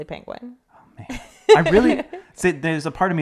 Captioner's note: laughing